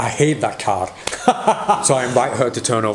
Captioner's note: cackling